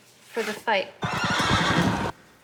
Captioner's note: horses whinnying